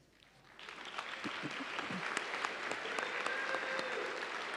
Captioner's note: audience applauding